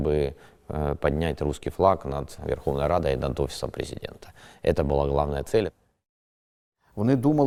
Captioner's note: Ukrainian